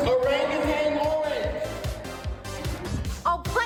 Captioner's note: echoes